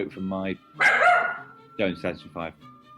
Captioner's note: dog barks